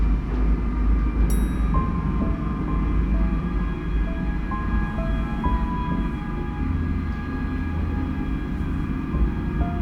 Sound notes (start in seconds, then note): 1.3 ding